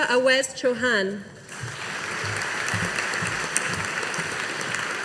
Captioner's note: audience applauding